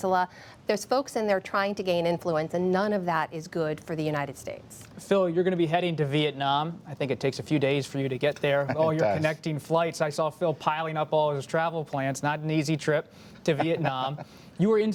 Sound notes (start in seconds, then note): 8.5 laughs